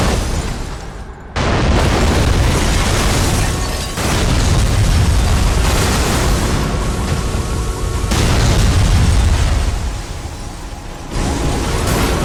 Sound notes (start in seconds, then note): 0.0 car smashing; 1.5 car horns blaring; 1.5 explosions blasting; 8.3 explosion blasts; 11.8 car horns blaring; 11.8 car smashing